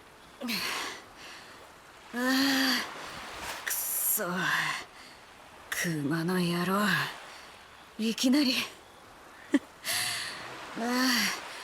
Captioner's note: huff